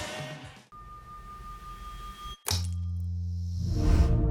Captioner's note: logo whooshing